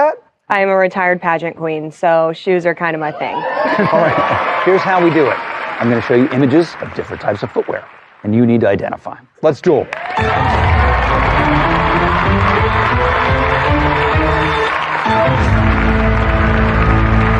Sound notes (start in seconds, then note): 9.8 cheering and applause; 10.1 dramatic music; 14.8 dramatic music climaxes